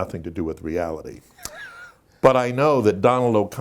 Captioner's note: Dick Van Dyke laughing